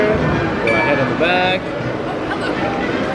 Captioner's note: device chimes